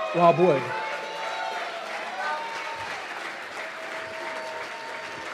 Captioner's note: cheers and applause